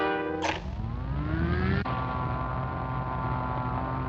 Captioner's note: machine whirs